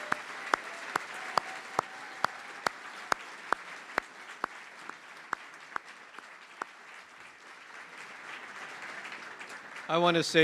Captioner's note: applause